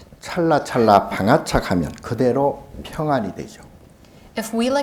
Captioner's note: speaking Korean